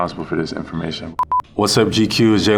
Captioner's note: beeping